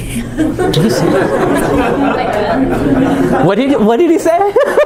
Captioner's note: chuckling